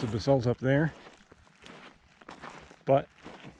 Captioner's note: footsteps thumping